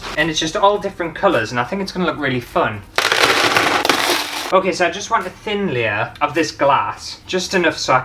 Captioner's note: glass Clatter